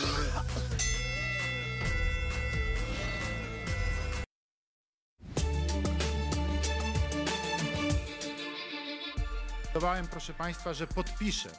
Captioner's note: coughs; bell rings